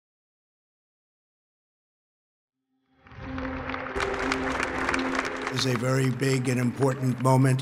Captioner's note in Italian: Applauso